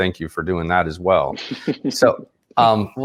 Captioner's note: laughs